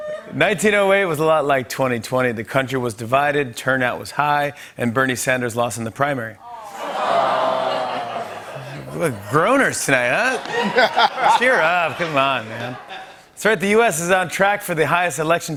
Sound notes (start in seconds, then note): 6.4 audience groans; 10.2 laughter